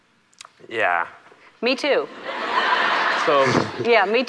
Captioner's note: audience laughs